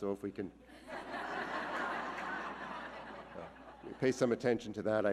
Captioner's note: audience laughing